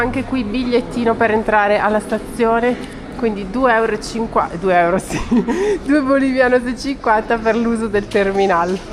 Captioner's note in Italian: risate